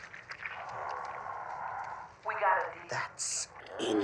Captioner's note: groaning over speakers